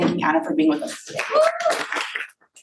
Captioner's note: audience cheering and applauding